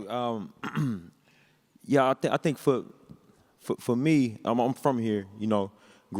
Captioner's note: clears throat